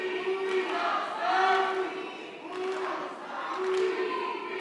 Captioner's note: background chanting, “Free, Free Palestine!”